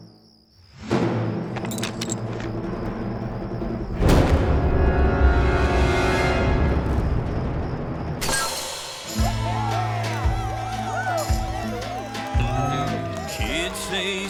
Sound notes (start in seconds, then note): 0.0 ominous music; 4.0 gunshot; 8.9 glass ball shatters; 9.1 cheering, applause